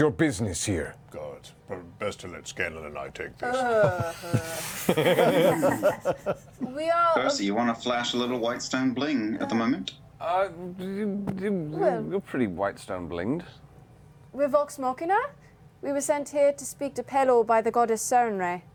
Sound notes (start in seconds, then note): 3.4 laughter